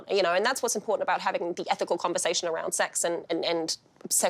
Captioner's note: none